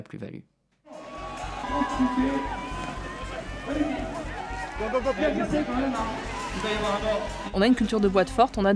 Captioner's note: crowd cheering